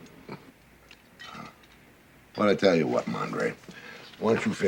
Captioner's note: sighs